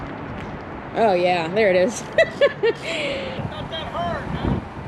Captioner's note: laughs